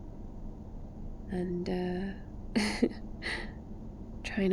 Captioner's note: laughs